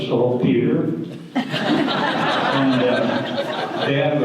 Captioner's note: audience laughter